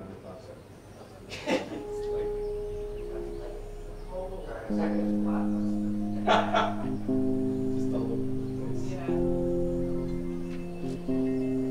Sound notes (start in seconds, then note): 1.1 music and distant chatter from rehearsal